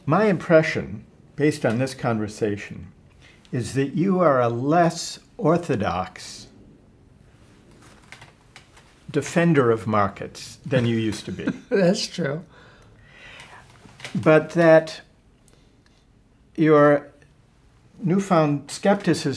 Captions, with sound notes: - My impression, based on this conversation, is that you are a less orthodox defender of markets than you used to be. - (laughs) That's true. - But that your newfound skepticism